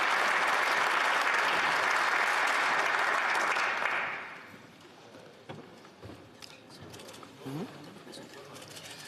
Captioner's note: applause